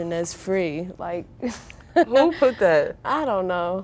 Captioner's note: giggling